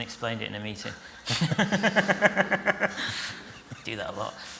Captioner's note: laughter